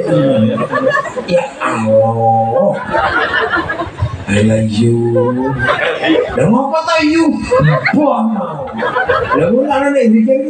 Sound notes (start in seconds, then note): 1.8 laughs